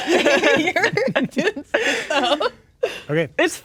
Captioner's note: laughing and speaking indistinctly